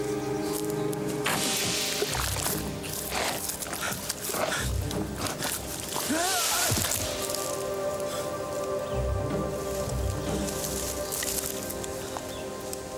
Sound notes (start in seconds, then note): 1.3 water splashing; 6.0 wailing